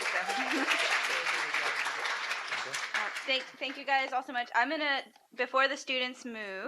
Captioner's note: applause